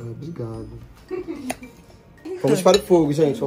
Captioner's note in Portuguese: risos